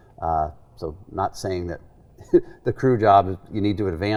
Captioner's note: laughing